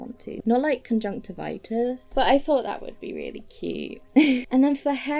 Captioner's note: giggles